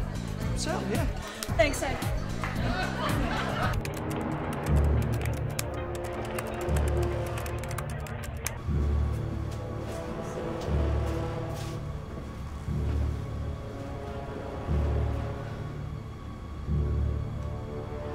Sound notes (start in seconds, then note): 6.9 dramatic music; 6.9 keyboard tapping